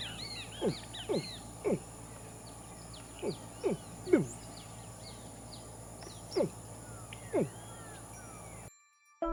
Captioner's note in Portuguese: som de animal